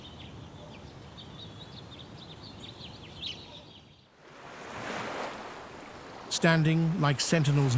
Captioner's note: birds chirping